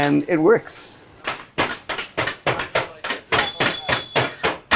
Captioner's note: knives tapping